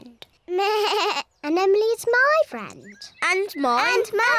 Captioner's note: bleats